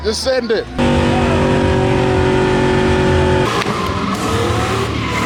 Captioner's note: car engine roaring